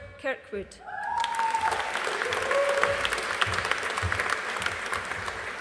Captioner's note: audience applauding